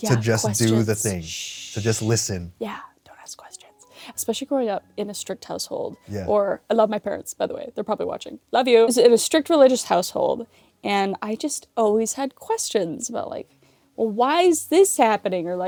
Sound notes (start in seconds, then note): 0.0 shooshes; 2.9 whispers